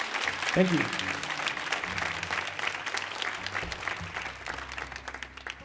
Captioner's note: audience applauding